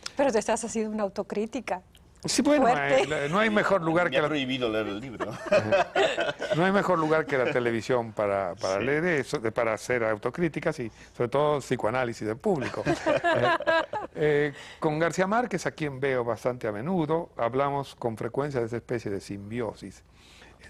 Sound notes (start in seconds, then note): 5.0 risas; 12.6 risas